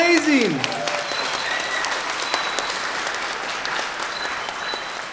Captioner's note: everyone applauding